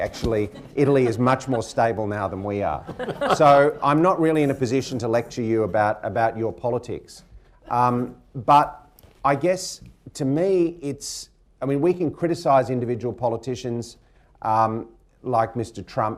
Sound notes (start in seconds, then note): 2.7 laughter